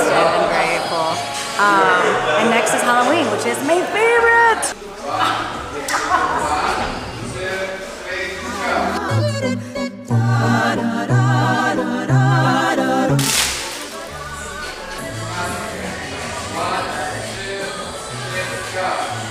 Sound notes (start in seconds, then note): 5.4 laughs; 13.2 candy falls on ground